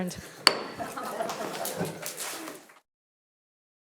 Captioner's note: gavel bangs